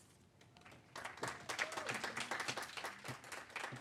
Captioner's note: applause